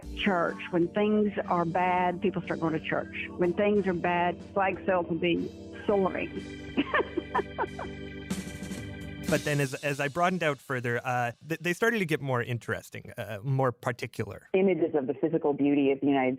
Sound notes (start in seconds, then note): 6.8 laughs